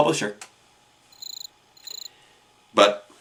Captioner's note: cricket